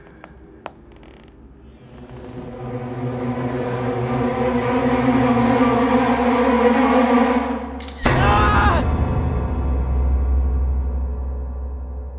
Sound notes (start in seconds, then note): 1.8 suspenseful music; 7.8 camera shutter; 8.2 scream